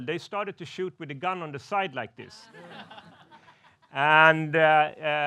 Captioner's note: laughs